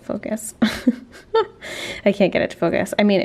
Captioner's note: laughing